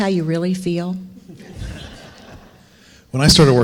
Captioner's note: audience laughing